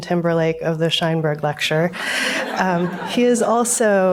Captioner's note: audience laughs